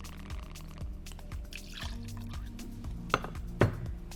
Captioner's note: liquid pouring; liquid pours; clinks